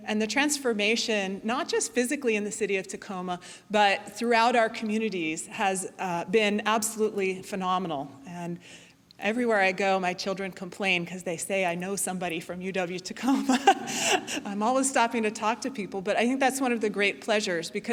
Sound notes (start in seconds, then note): 13.4 laughing